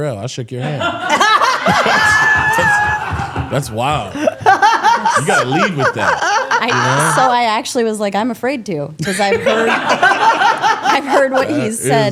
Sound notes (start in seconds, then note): 0.6 all laughing